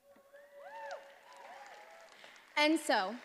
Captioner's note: attendees applauding